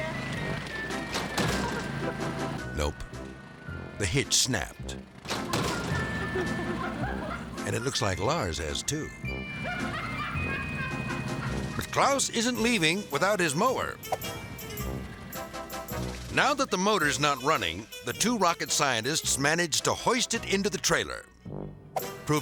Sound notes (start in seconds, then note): 0.1 bright music; 5.3 bright music; 5.4 laughing; 9.6 laughing; 14.8 bright music